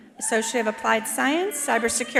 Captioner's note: attendee cheering